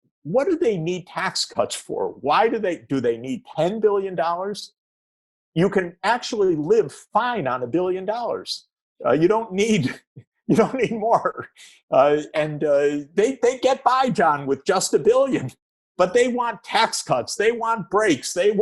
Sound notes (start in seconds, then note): 10.5 chuckles